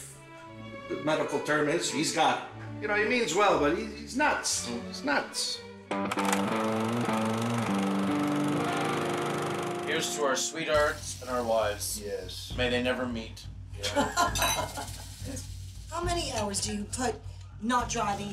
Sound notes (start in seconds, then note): 13.8 chuckling